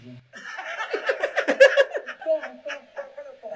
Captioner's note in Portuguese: riem